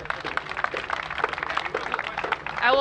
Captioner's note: applause